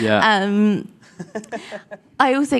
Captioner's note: laughing